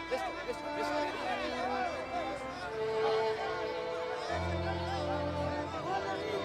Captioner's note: slow music; speaking in foreign language